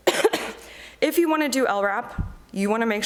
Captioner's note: coughs